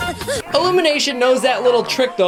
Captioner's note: minions scream